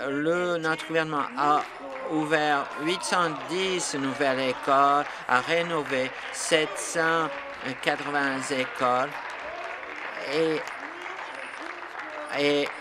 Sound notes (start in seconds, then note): 7.6 applause